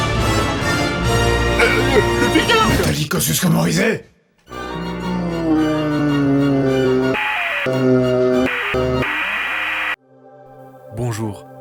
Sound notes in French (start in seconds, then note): 4.7 Voix ralentie de Pygargue-Man; 8.4 Bruit parasite; 8.7 Voix ralentie de Pygargue-Man